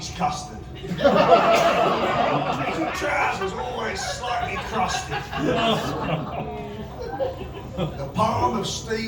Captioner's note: laughter; laughter & gasps of horror!